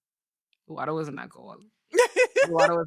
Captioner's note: laughing